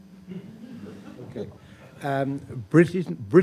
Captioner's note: audience laughs